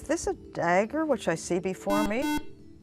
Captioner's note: beeping